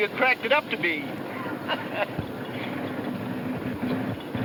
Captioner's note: chuckles